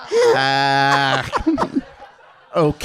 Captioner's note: laughing